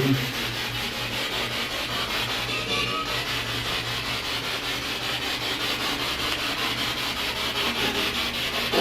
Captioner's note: radio noise from the spirit box